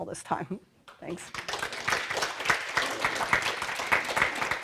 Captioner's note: applause